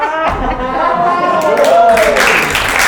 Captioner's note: crowd laughing; crowd applauding